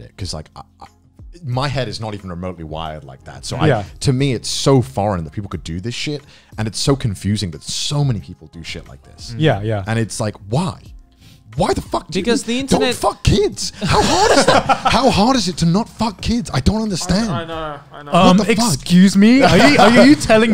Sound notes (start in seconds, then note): 13.7 laughs